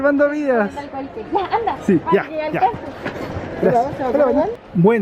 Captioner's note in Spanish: risas